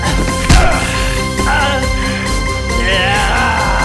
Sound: punch noise

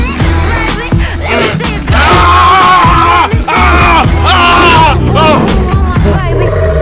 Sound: werewolf snarling; Fred screams; werewolf snarling

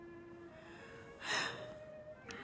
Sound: sighs

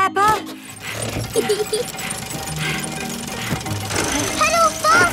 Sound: mummy pig panting; peppa laughing

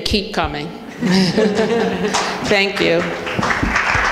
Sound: laughing

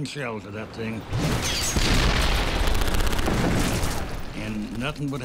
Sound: cannon shots exploding; rapid gunfire exploding

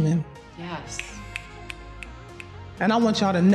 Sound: snaps fingers

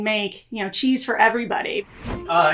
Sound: air whooshing

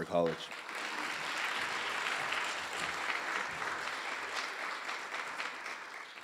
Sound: audience applause

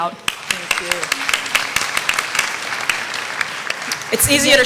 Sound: applause

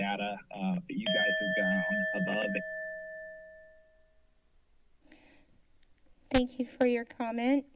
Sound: alarm sound

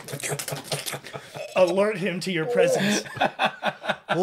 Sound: gross mouth sounds

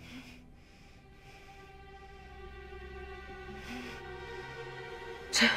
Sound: sighs; breathing heavily

